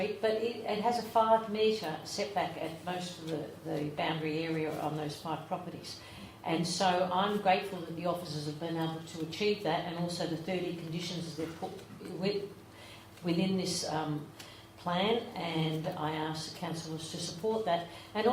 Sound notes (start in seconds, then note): none